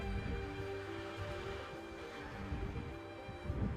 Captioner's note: traffic whooshing